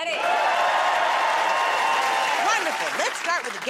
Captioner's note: cheers and applause